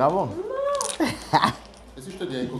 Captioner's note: rires